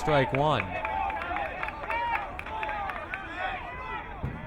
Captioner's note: crowd cheering